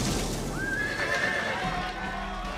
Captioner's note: neighing; cheers and applause